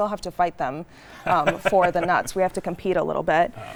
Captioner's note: laughing